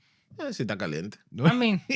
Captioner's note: speaking Foreign Language